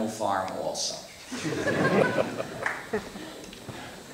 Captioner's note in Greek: Γέλια από το ακροατήριο